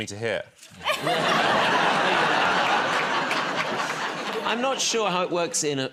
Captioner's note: laughter